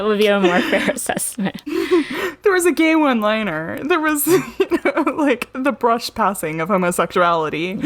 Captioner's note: laughs; laughs